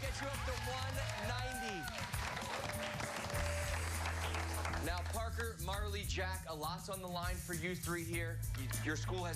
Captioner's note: cheers and applause